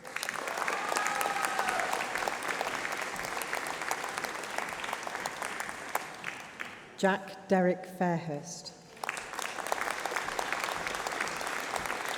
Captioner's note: applause